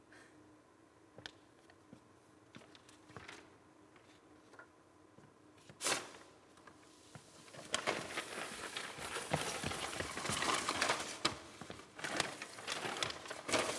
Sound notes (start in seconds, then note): 7.2 papers rustling